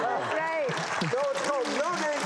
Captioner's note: audience applauds